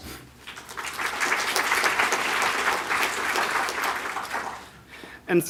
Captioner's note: audience Clapping